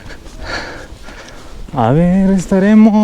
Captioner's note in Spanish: jadeo